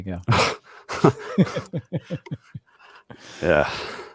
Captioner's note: both laughing